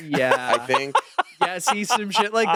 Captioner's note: laughing